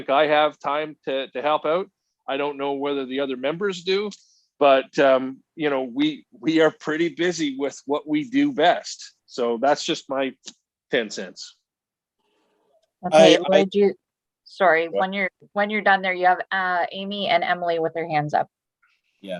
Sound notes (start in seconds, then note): 13.5 talking in unison